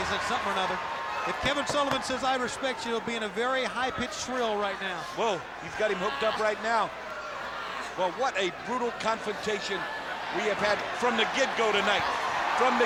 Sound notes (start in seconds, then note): 5.4 wrestler bellowing; 12.0 crowd cheering